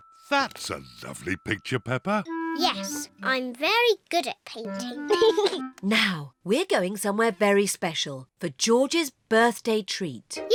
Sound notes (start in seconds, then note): 5.0 giggles